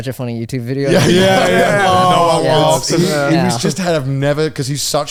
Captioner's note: groaning